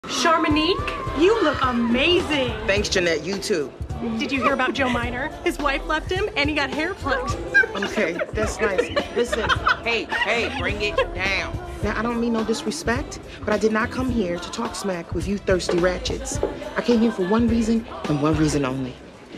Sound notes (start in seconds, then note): 7.0 laughing